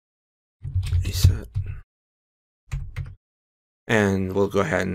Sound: typing

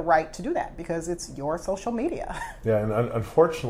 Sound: laughs

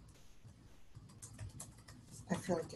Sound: typing

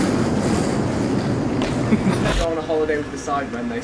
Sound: footsteps pattering

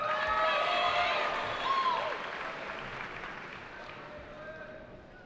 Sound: cheering

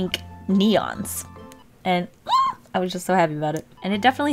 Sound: excited squeal

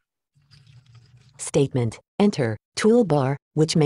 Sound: automated Voice

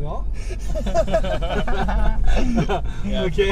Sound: laughes

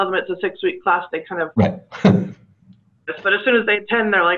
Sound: chuckles

